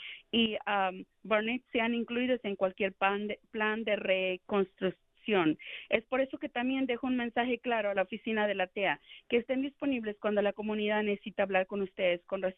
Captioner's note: speaking spanish